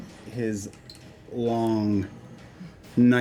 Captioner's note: none